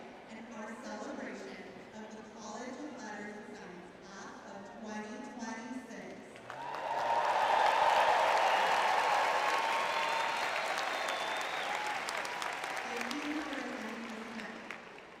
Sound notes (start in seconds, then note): 7.3 applause; 7.3 cheering